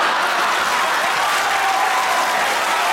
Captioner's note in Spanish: risas; aplausos